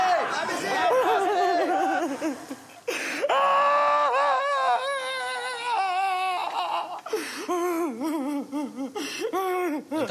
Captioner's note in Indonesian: menangis meraung-raung